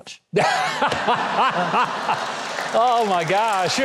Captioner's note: Huckabee and audience laugh